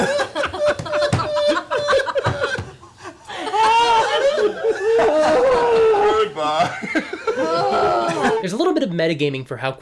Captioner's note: laughter